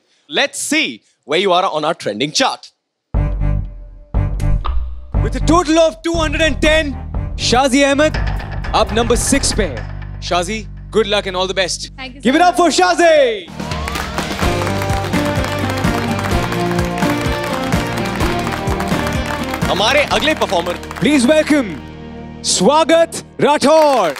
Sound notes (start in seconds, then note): 3.2 suspenseful music playing; 13.4 all applauding; 15.6 theme music playing